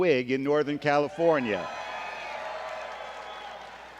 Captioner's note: applause